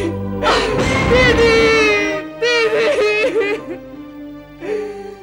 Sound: sobbing

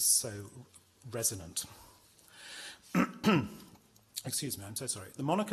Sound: clears throat

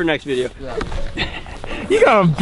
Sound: laughs

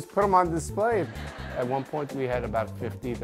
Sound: crowd laughs

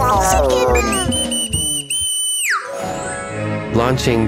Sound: whistling

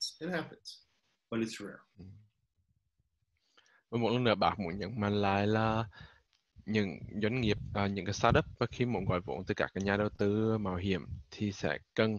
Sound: speaking vietnamese

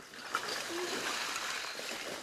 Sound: clinking

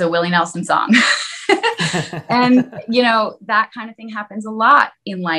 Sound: laughs

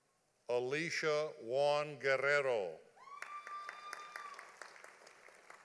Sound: audience applauding

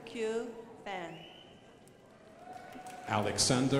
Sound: crowd applauding

